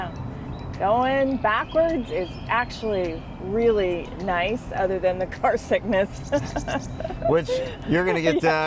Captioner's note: laughing